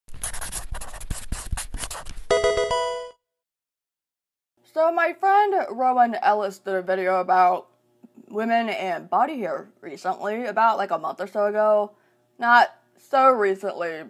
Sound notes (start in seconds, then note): 0.1 marker scratching; 2.3 electronic video game chime